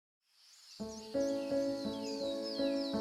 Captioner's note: birds chirping